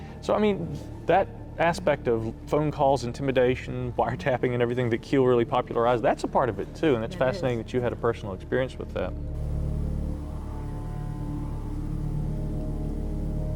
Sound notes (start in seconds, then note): 0.0 intense music; 9.3 car droning; 10.8 ominous music